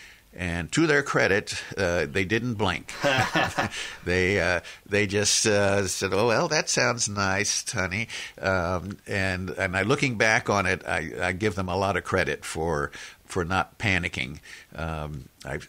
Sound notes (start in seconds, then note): 2.9 laughs